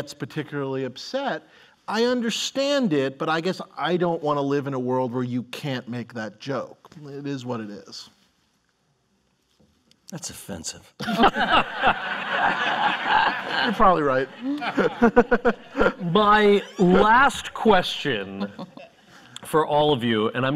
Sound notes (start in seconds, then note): 11.0 laughter